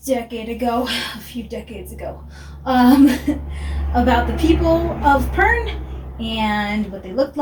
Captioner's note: exhales